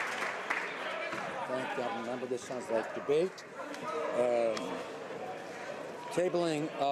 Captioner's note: some Applause